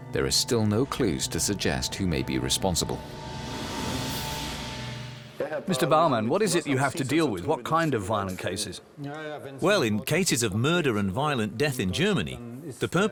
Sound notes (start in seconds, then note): 5.7 in German; 9.7 in German